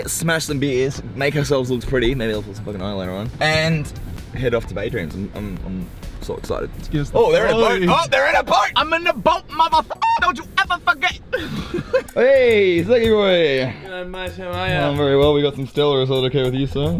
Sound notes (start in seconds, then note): 10.2 squawk